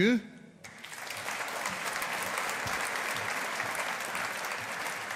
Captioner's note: audience applauding